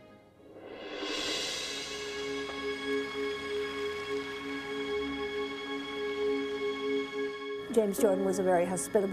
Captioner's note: swoosh